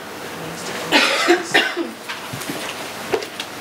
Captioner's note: coughing